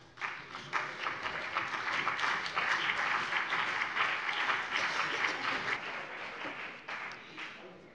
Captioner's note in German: Beifall BÜNDNIS 90/DIE GRÜNEN